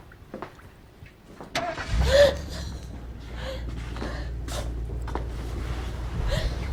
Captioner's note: car engine outside